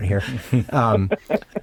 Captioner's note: laughing